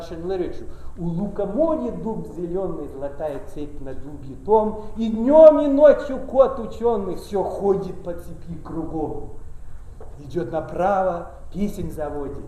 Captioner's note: speaking russian